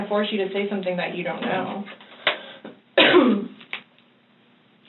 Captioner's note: coughs